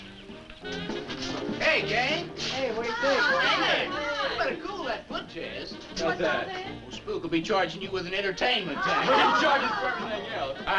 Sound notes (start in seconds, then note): 2.6 all chattering; 8.7 laughing